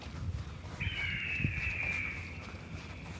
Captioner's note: birds chirping like sound effects